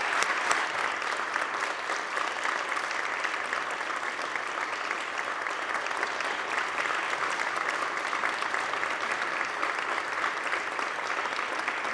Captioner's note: applause